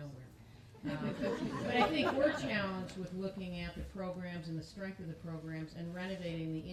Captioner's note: laughter